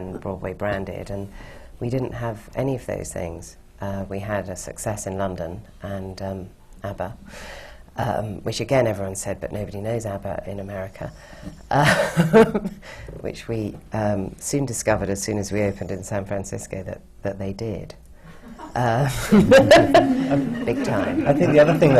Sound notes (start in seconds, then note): 12.2 laughs; 19.0 laughter